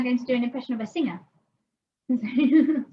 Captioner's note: laughs